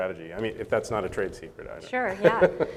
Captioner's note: chuckles